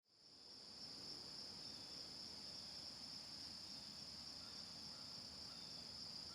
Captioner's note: crickets chirping